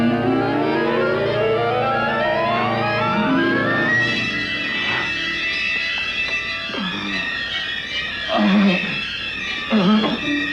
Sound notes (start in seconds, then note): 4.4 gasping